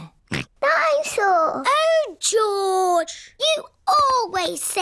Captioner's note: snorts